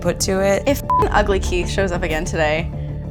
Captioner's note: beep